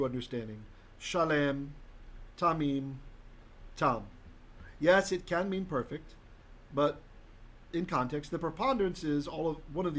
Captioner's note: Hebrew